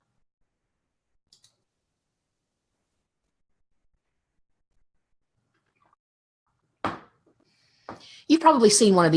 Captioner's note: mouse clicks